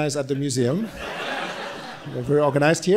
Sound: audience laughing

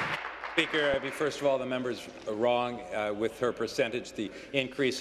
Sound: applause

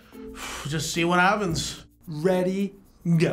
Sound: sighs

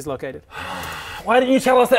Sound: sigh

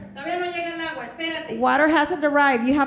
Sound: speaking in foreign language

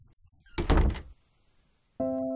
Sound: door closes

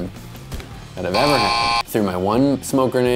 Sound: buzzer

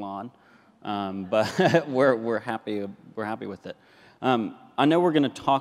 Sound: laughs

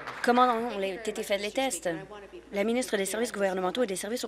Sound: applause

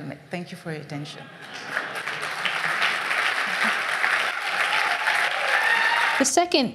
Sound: applause

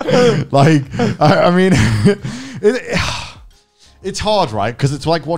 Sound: men laughing; sighs

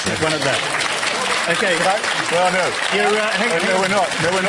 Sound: clapping

